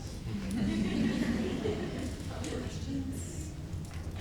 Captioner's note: laughing